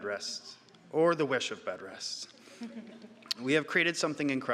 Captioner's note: audience chuckling